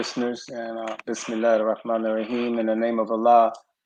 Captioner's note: speaking in a foreign language